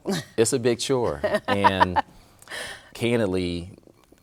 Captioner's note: laughing